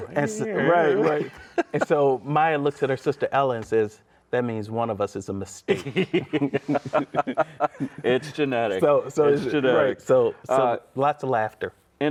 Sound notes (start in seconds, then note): 5.7 laughs